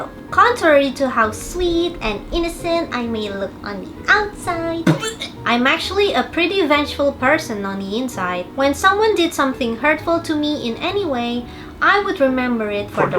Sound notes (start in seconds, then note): 4.8 vomits